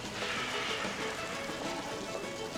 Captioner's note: exhaling